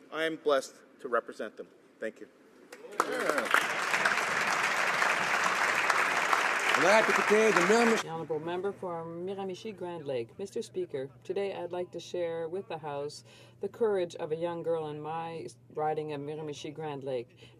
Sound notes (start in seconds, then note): 6.7 applause